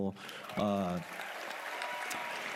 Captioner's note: cheers and applause